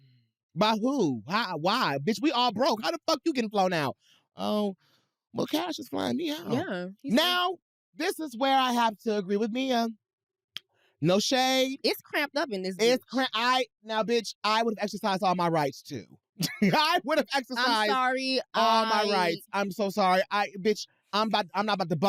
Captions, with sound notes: By who? Why? Why? Bitch, we all broke! How the fuck you getting flown out? "Oh, well Cash is flying me out." Now, this is where I have to agree with Mia. -No shade. -It's cramped up in this bitch. Now, bitch, I would've exercised all my rights too. (CHUCKLES) -I would've exercised-- -I'm sorry. ...all my rights. I'm so sorry. Bitch, I'm not about to bunk bed